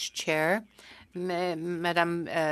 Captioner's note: speaking french